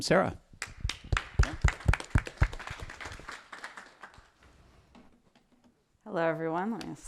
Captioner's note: applause